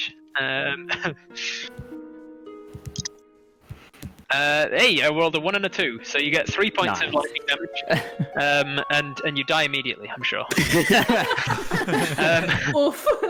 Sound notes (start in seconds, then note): 2.5 dice flourish; 10.5 all laughter